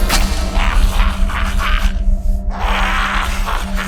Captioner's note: Jack laughs